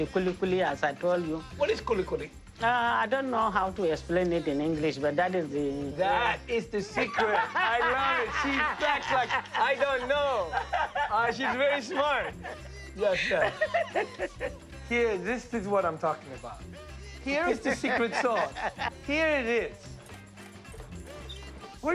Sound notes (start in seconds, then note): 12.7 laughs